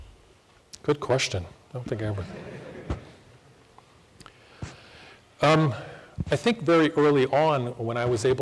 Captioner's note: laughter